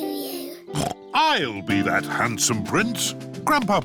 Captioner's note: snorts